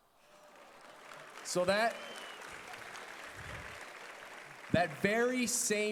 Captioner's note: applause